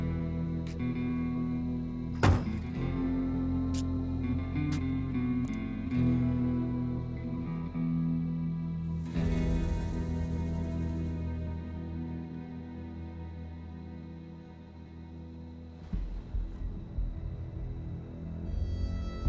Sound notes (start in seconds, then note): 0.5 feet scuffing